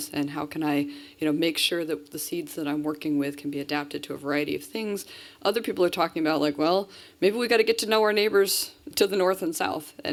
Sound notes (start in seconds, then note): none